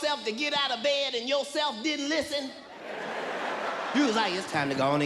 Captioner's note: audience laughs